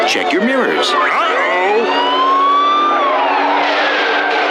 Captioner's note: siren blaring